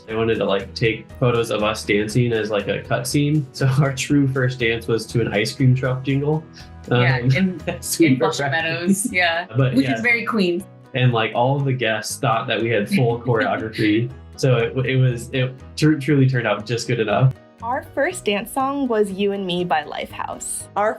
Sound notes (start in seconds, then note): 6.8 laughs